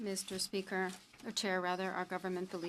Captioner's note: speaking French